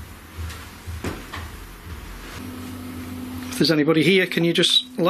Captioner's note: thumping